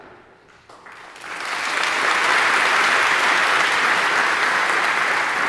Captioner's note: audience applauding